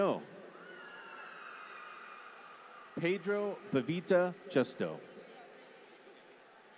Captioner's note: applause